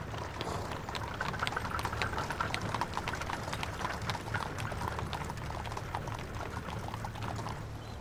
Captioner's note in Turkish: At arabası sesi